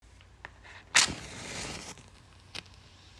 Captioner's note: match strikes